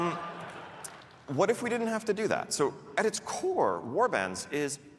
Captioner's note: laughter